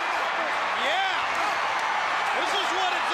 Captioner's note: crowd cheering